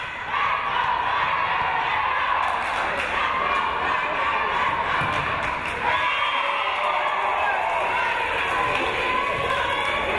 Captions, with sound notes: - [Crowd] Let's go Tigers, let's go! Let's go Tigers, let's go!